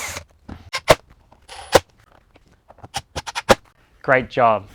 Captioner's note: drill whirring